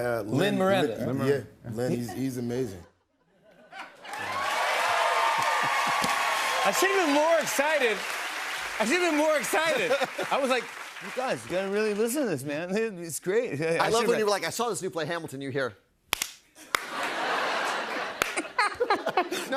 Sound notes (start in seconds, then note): 4.0 cheers and applause; 16.1 solitary clapping; 16.8 laughter